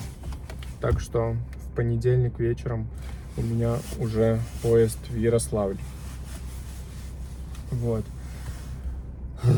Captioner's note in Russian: вздыхает